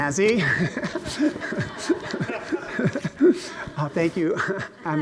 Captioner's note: laughs loudly